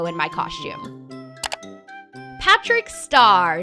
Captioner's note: clicking